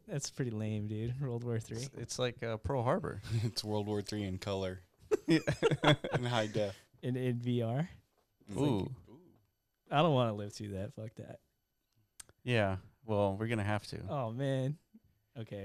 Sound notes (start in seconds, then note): 5.1 laughter